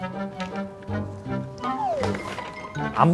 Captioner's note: tumbling